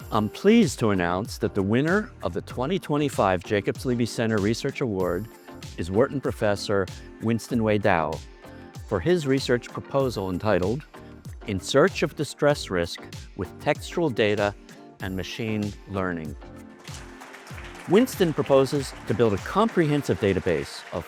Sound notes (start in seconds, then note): 16.7 audience clapping